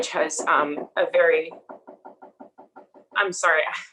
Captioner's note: door knocking